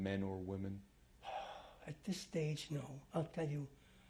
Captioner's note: sighs